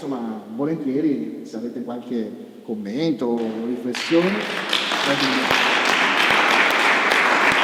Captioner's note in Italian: Applauso